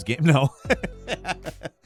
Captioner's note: Falcon laughs